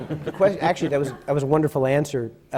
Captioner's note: laughter